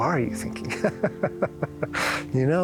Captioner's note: laughter